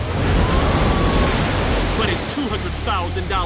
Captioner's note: woman screams